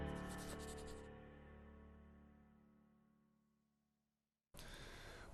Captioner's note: marker scribbling